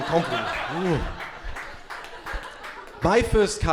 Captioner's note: crowd laughing